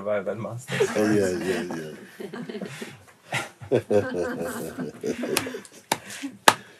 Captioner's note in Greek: γέλια